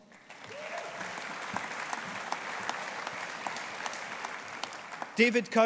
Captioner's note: audience applauding